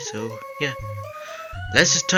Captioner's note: inhales